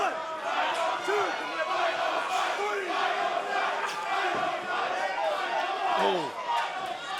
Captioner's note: crowd cheering